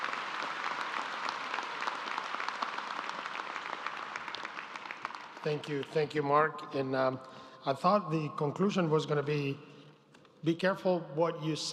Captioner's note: applause